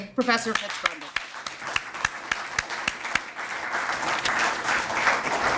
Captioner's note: audience applauds